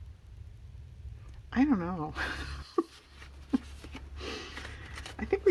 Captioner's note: laughs